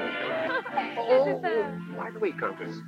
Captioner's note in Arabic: تضحك الكونتيسة